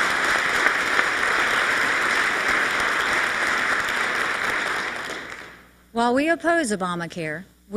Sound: applause

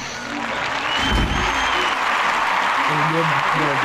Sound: applauding

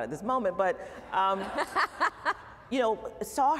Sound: laughter

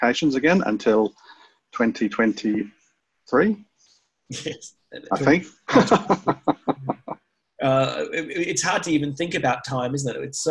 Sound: laughs

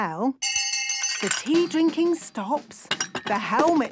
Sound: hand bell ringing; tea cups clinking

